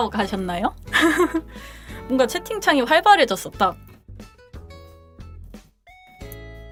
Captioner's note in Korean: 웃음